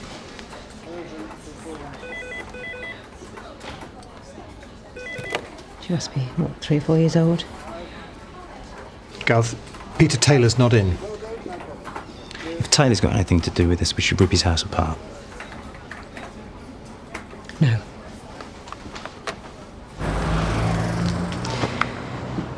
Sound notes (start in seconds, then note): 0.3 people chattering; 0.3 phone ringing; 15.1 people chattering; 19.9 traffic whooshing